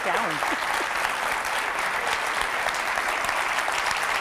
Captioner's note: clapping